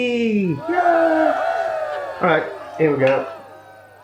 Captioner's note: cheerin